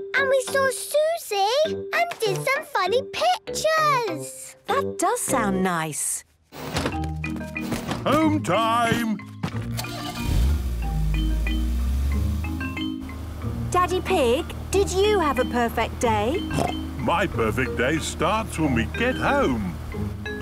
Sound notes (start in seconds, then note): 9.8 engine starting